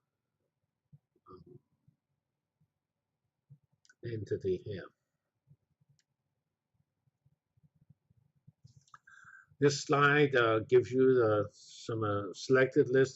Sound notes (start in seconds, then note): 0.2 pause; 5.9 pause